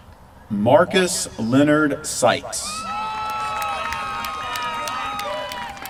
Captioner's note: applause